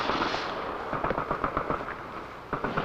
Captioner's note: gun shots